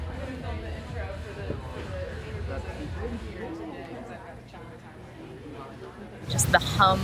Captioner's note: quiet chatter